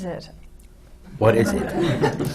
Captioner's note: laughter